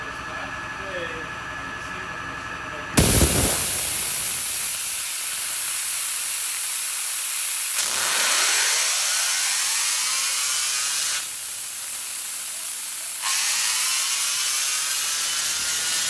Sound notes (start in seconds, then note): 3.0 violent surge of water splashes; 7.6 motor runs rapidly